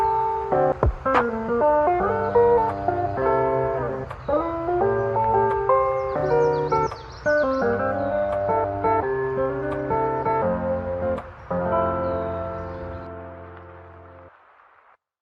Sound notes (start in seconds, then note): 4.9 birdsong from original audio